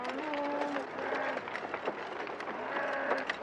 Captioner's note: cows mooing